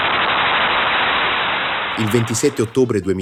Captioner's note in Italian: Applauso